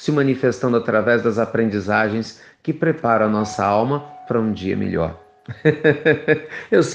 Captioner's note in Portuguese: risos